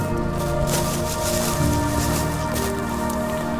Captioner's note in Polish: odgłosy spłoszonego stada